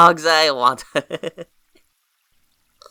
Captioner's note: chuckles